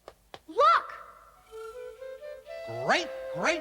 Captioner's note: none